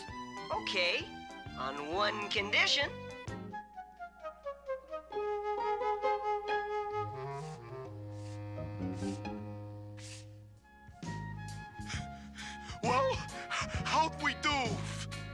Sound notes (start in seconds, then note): 11.8 panting